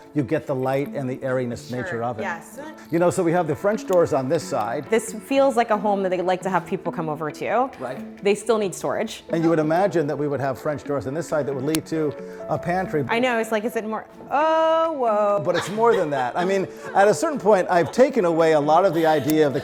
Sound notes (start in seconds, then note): 15.4 chuckles